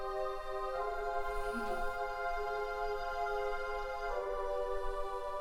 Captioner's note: Hannah chuckles